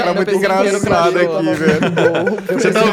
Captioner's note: laughter